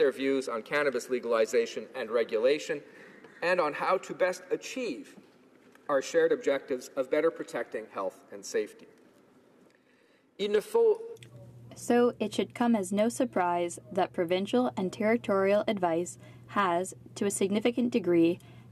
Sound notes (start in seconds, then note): 16.3 speaking french